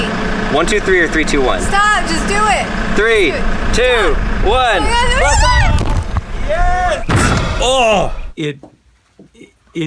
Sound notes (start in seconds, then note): 4.8 shrieks; 6.7 shouts